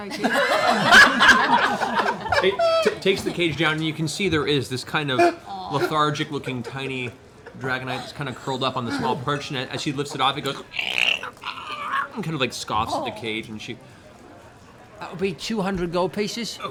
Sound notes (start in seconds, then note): 0.0 laughter; 10.1 lizard noises